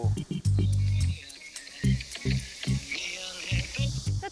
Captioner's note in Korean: 휴대전화 발신 연결음